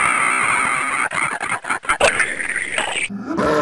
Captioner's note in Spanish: sonidos de ataque; gruñidos de mierda